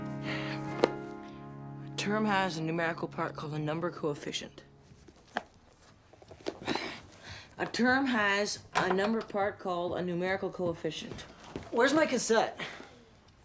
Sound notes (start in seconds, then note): 4.9 sighs